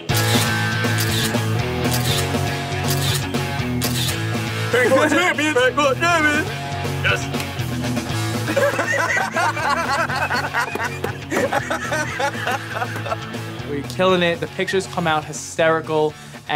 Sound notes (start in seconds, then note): 0.1 upbeat music; 8.4 laughs